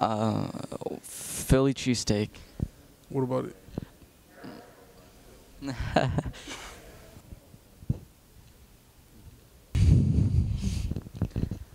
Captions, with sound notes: - Uh, Philly cheese steak. - What about it? (awkward laughing)